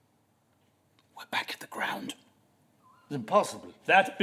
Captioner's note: whisper